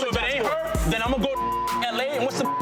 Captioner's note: beep